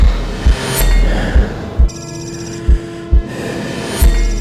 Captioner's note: heartbeat pounding; lights sparking; Erik breathing heavily